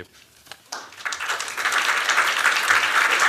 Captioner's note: applause